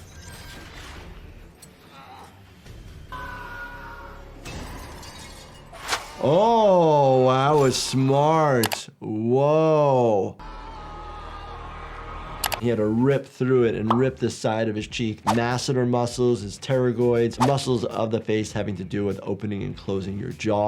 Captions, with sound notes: (dramatic music) (yelling) (glass breaks) - Oh. Wow, that was smart. Whoa. (yelling) He had to rip through it and rip the side of his cheek, masseter muscles, his pterygoids. Muscles of the face, having to do with opening and closing your jaw.